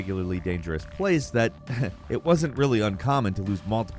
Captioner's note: chuckles